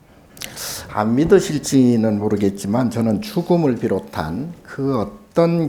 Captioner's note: speaking Korean